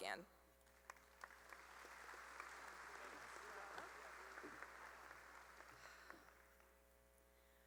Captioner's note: applause